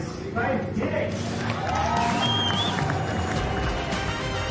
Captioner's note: cheers and applause